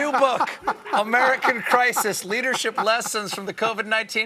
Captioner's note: laughter